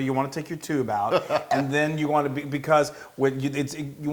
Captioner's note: laugh